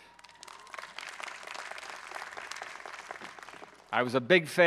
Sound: audience clapping

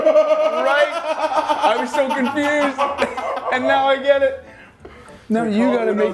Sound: laugh

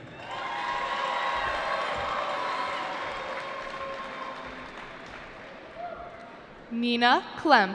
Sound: cheering

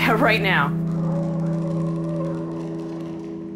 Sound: ghoulish breathing

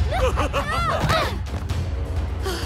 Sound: both laughing

